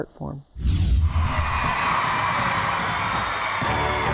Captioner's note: crowd cheering